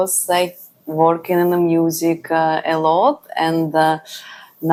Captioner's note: none